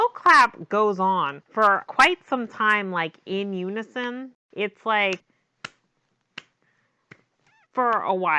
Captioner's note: claps